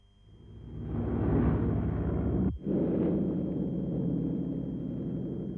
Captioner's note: plane engines rumbling